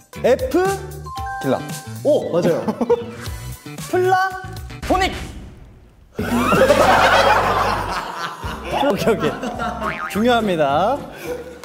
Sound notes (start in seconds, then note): 6.2 they burst into laughter at such a strong answer